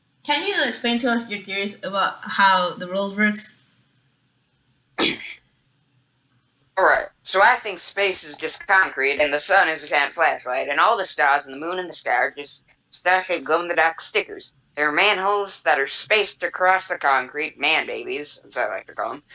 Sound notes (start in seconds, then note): 5.0 clears Throat